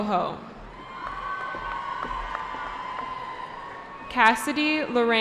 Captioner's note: cheering